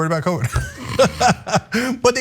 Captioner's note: laugh